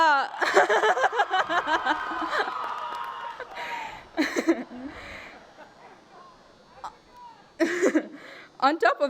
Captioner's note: applause and cheering